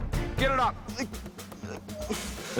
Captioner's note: groans